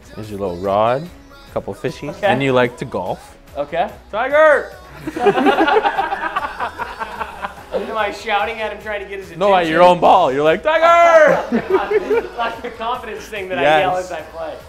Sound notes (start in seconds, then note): 4.9 laughter